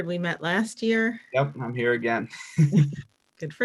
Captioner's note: laughing